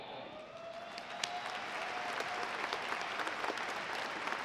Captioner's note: audience applauding